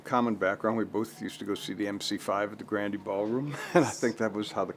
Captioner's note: laughs